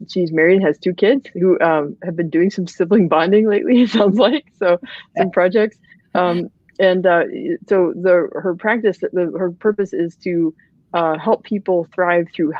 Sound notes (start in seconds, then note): 3.8 laughs